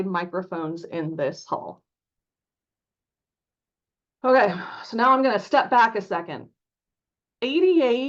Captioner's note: sighs